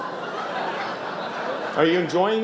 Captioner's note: laughter